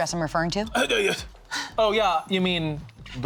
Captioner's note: stammers